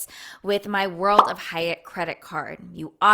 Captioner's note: bubble popping